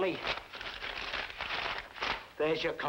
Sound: papers crumpling

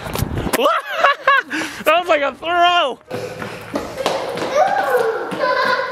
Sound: laughing

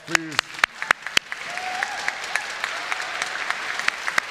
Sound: congregation applauds

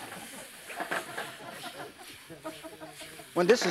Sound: audience laughs; vegetables toss

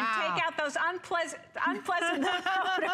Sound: laughter

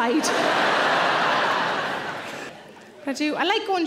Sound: audience laughing

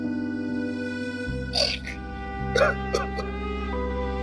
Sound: cries

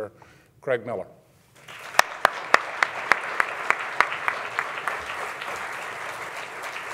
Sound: audience applauding

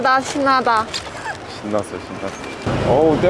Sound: laughs

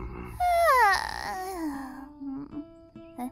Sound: yawn

